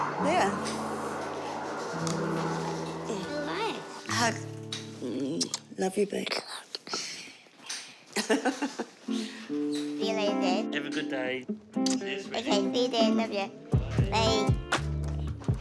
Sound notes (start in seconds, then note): 8.1 chuckles